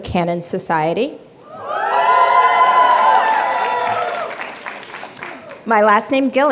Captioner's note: applause and cheering